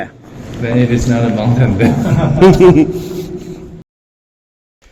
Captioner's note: laughs